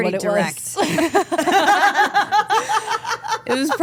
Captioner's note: group laughing